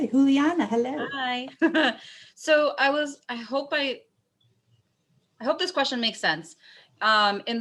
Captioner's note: laughter